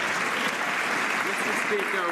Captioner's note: some Applause